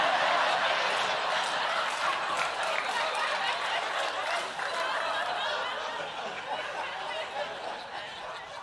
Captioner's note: laughter; clapping